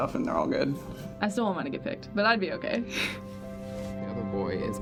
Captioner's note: giggles